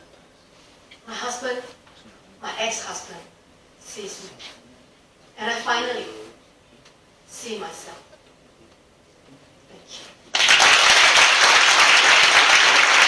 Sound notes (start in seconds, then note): 10.3 audience applause